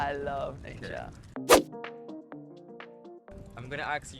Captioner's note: text whooshing